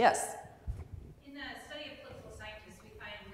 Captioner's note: voiceover